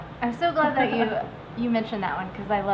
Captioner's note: giggling